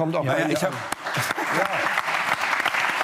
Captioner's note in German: Applaus